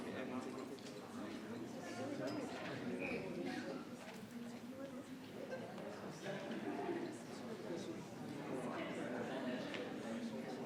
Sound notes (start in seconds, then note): 4.9 attendees chattering continues